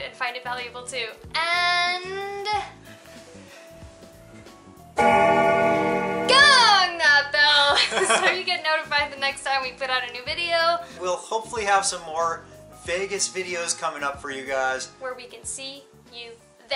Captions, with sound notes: and find it valuable too. And... (bell gongs) Gong that bell! So you get notified the next time we put out a new video. - We'll hopefully have some more Vegas videos coming up for you guys. - Where we can see you there.